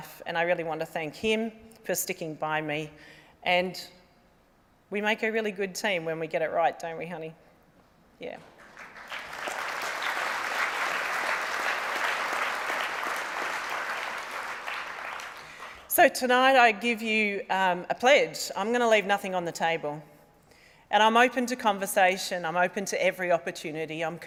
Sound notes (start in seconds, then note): 8.4 applause